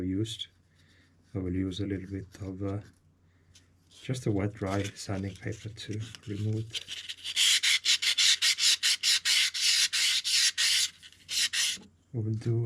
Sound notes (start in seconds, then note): 9.5 awful sound of sanding